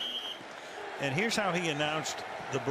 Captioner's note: whistle